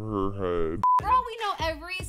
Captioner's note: monotonous high pitch sound